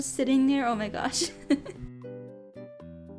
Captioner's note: giggles